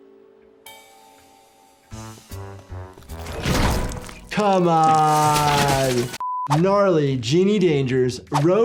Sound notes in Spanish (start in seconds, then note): 0.0 música juguetona; 3.0 las puertas se cierran de golpe